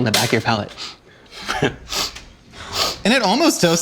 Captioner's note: sniffing